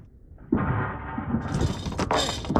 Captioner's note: bar rattling in slow-motion